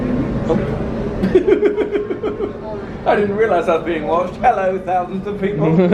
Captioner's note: laughs